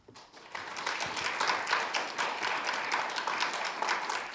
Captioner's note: audience applauds